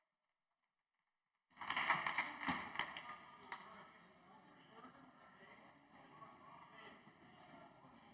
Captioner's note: some Applause